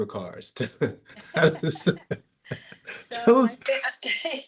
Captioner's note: laughs